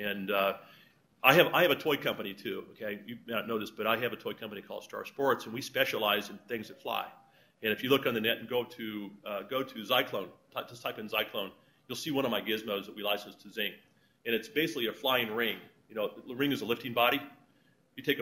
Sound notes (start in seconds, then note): none